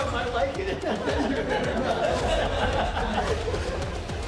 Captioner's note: inmates laughing; dramatic music